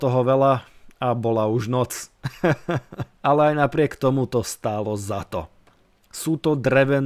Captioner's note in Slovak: smiech